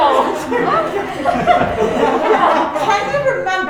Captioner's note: crowd laughing